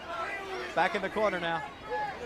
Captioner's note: crowd chatter